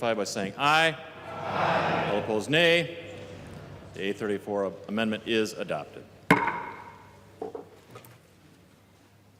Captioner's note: chorus of ayes